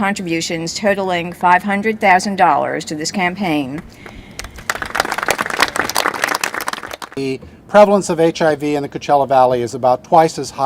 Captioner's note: applause